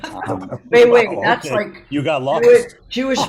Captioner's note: laughing